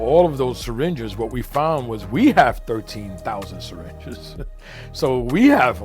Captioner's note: laughs